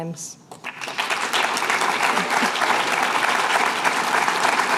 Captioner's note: applause